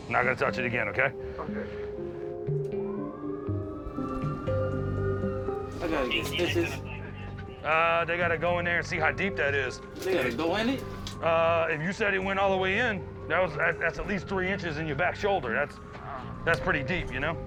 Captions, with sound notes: I'm not going to touch it again, OK? OK. [siren] I gotta get stitches? They gotta go in there and see how deep that is. They got to go in it? If you said it went all the way in. That's at least 3 inches in your back shoulder. That's pretty deep, you know?